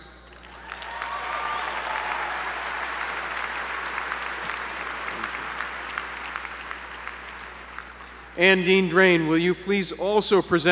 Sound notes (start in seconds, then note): 0.2 applause